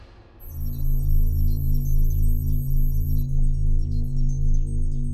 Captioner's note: energy thrumming